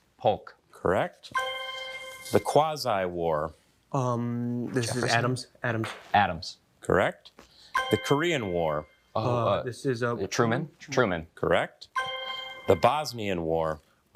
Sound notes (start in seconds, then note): 1.3 bell dinging